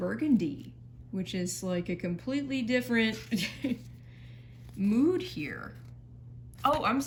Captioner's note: chuckles